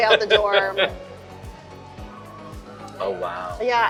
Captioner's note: laughing